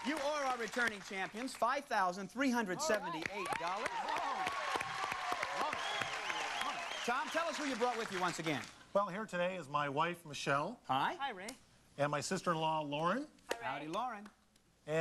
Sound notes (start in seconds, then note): 2.8 crowd cheers